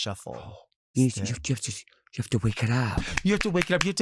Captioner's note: clapping